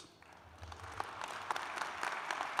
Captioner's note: applause